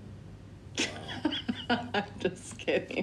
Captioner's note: laughs